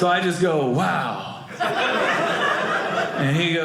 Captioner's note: audience laughing